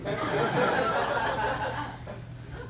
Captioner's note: laughter